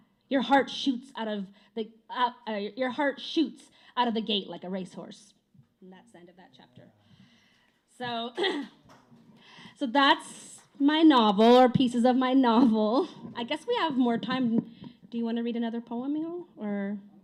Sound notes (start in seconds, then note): 8.2 clears throat